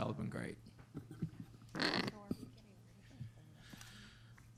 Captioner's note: group chatter